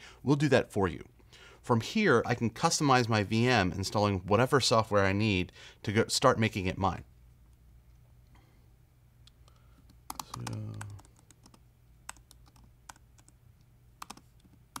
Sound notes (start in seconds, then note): 9.8 keyboard clicking